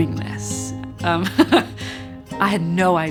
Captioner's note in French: rit doucement